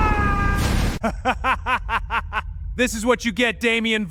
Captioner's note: evil laughs